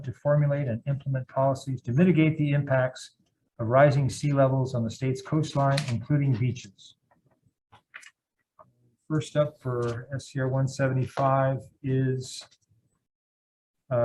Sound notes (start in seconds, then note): 7.8 paper rustling